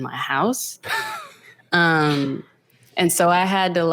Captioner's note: laughs